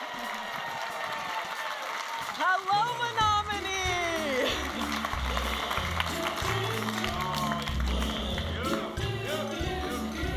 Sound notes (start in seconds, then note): 0.2 audience applauding and cheering; 5.1 audience applauding and cheering; 7.0 vibrant music